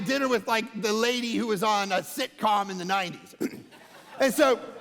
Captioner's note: congregation laughing